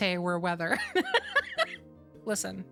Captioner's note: laughter